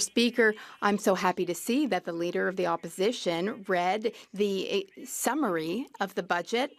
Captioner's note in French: voix de l'interprète